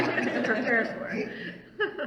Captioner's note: all laugh